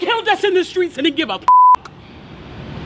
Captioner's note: beep